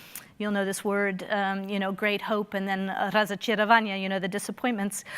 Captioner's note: speaking in foreign language